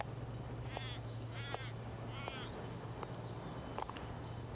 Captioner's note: birds cawing